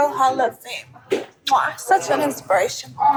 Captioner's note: kiss smacking